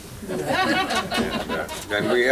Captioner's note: laughter